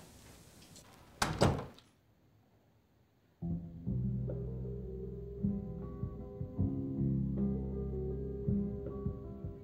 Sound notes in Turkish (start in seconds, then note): 1.1 kapı kapanma sesi